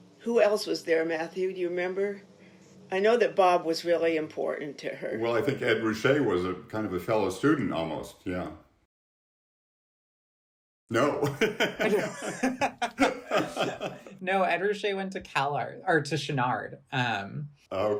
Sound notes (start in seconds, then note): 10.9 people laughing